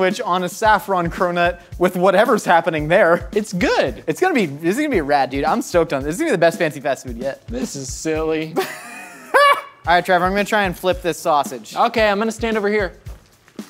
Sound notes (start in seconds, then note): 8.5 laughs; 13.0 butter bubbles